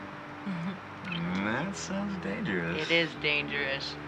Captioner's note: lips smacking